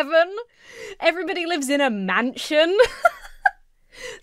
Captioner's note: laughs